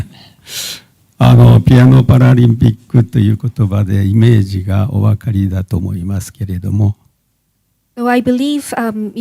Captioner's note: speaking japanese